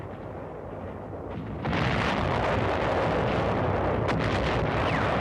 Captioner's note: guns firing